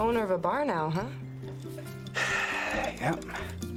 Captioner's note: sighs